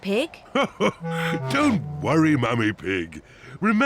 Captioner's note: laughs